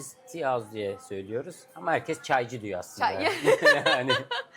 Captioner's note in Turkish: kahkaha